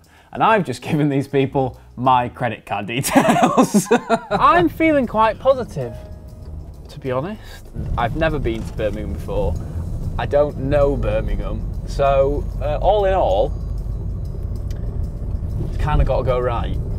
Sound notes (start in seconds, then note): 3.0 laughter